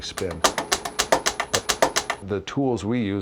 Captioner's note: wood clicking